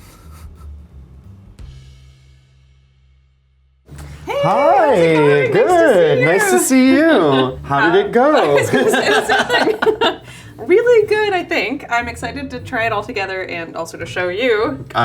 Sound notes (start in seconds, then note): 0.1 chuckling quietly; 8.7 both laughing